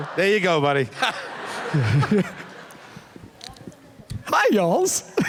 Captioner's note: laughter